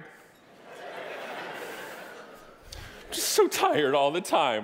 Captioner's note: audience laughing